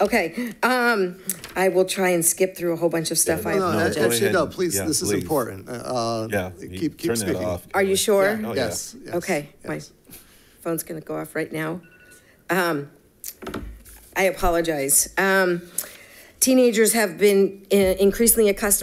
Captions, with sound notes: I will try and skip through a whole bunch of stuff. - Go, please this is important. Keep speaking. - Are you sure? - Yes. - Okay, my phone's gonna go off right now. (phone ringing) I apologize, teenagers have been increasingly accustomed